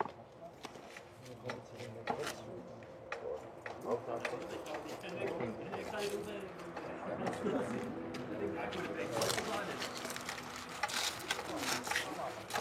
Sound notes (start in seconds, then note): 9.0 cracking